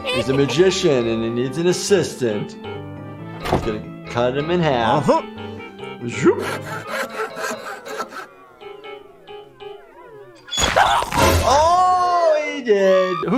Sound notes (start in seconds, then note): 0.0 Cuddles giggling; 6.4 saw grinding